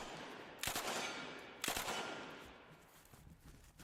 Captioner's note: gun firing